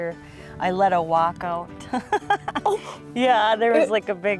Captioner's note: laughs